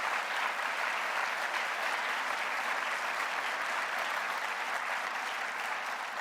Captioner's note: alreadyApplause